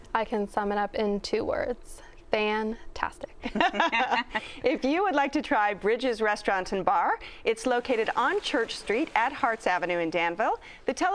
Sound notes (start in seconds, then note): 3.4 laughter